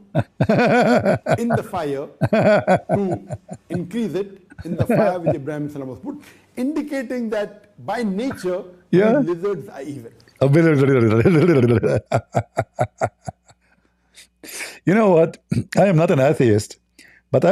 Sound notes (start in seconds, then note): 10.8 Ketawa